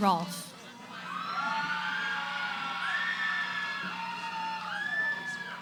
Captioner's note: cheering